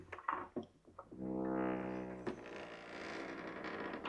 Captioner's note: door creaks open